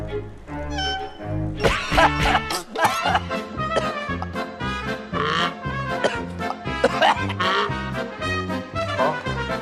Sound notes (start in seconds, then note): 1.6 cough!; 6.7 cough